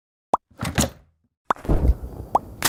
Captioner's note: pop